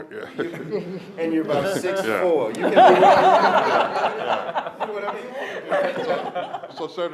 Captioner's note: laughter